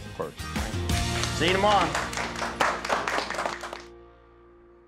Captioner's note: applause